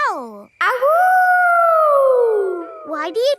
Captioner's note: howling